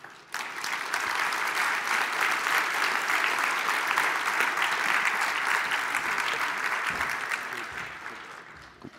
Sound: applause

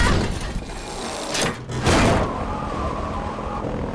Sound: wind blowing

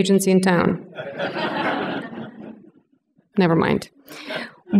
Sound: laughter

